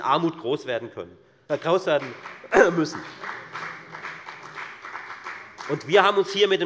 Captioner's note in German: Beifall bei der FDP